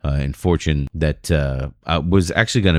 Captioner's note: uh